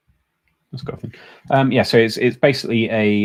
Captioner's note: mumbles